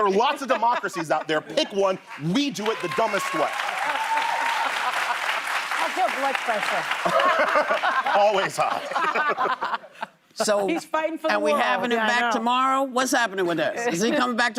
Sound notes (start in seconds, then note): 7.2 applause; 10.4 laughter